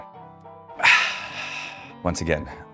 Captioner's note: Joshua exhales